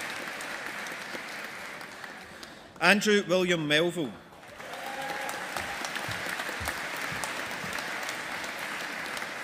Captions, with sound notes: Andrew William Melville. (AUDIENCE APPLAUDING)